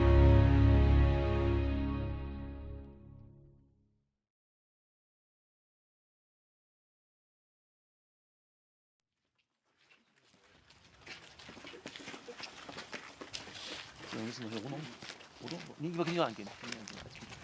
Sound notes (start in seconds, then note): 11.5 footsteps